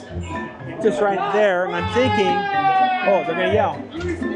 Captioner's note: annoying Screaming from staff